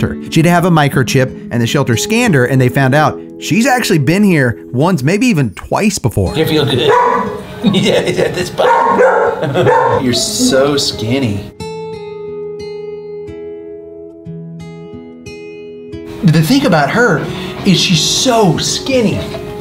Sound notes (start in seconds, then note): 6.8 Luna barks